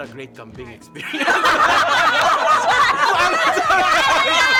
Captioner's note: laughs